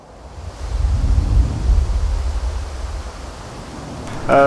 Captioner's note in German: Wind heult